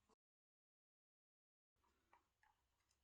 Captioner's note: turned off the sound for annoying sound